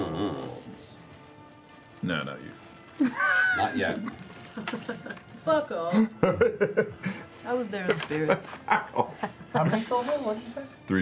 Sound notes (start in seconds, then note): 4.8 laughs